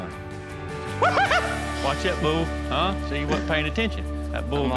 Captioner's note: yelps